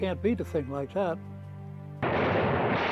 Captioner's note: gunfire